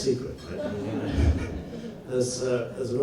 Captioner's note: audience laughs; laughs